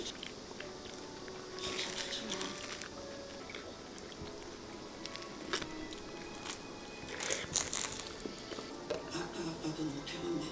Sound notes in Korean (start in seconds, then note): 4.4 상상의 가게 파리 날리는 소리